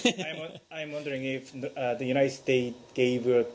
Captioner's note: laughter